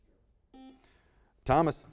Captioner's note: buzzer beeps